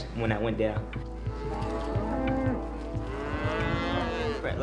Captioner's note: cattle lowing